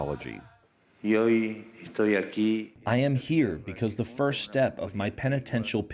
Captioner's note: through translator